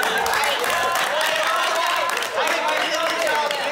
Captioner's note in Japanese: 拍手喝采